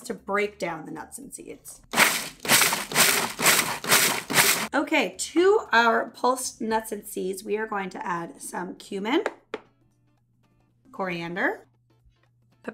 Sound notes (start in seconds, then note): 1.9 repeated grinding